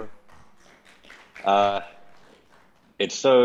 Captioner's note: audience clapping